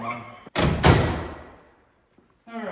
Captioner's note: door slamming